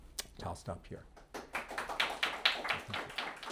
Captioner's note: audience applauding